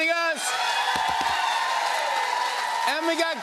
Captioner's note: cheers and applause